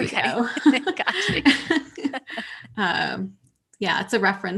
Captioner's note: laughter